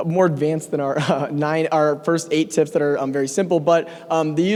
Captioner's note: laugh